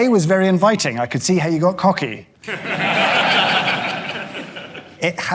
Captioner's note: audience laughing